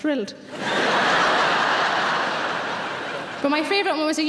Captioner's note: laughing